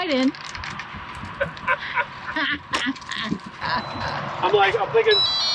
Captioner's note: laughing